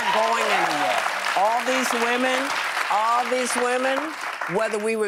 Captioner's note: applause